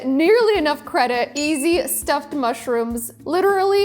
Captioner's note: graphic ringing